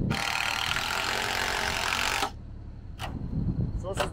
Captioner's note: screw gun spinning